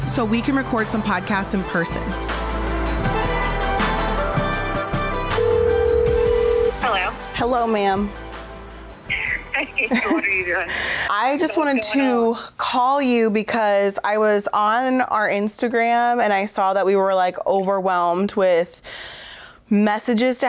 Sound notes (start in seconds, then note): 5.3 line ringing; 9.2 laughs